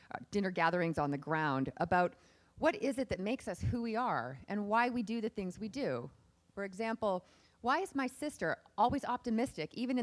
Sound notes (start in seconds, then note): none